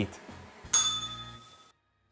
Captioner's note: bell rings